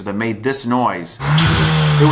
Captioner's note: blow-off valve noise